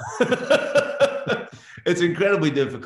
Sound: laughs

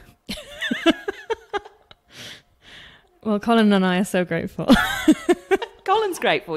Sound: laughs

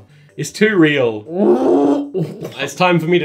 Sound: gagging

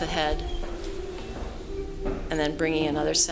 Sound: footsteps

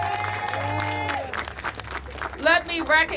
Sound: applause

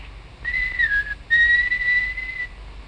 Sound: whistling

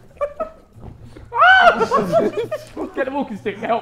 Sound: Josh yelling

